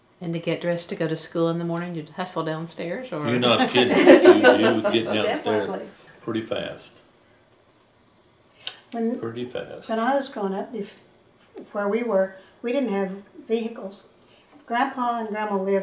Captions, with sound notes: And to get dressed to go to school in the morning you’d hustle downstairs? You’re not kidding. (Laughter) You’d get downstairs pretty fast. Step lively. Pretty fast. When I was growing up, where we were, we didn’t have vehicles. Grandpa and Grandma lived